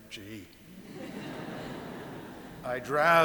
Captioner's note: audience laughing